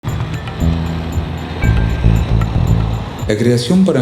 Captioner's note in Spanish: sonido de tránsito